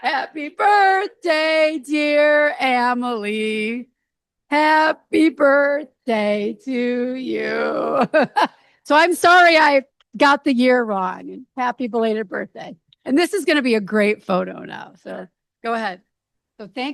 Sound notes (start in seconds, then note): 7.5 laughs